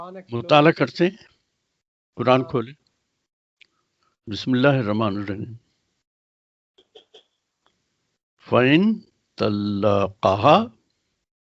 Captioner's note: recites in Arabic